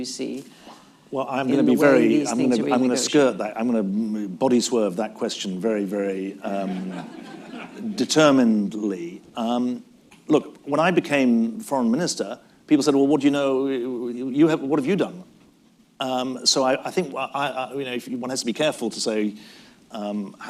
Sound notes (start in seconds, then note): 6.6 laughter